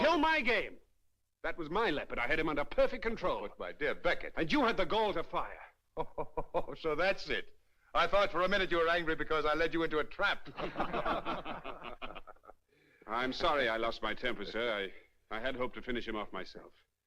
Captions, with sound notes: That was my leopard. I had him under perfect control. Look, my dear Beckettó And you had the gall to fire. [Laughing] So that's it. I thought for a minute you were angry because I led you into a trap. [Men Laugh] I'm sorry I lost my temper, sir. Ió I had hoped to finish him off myself.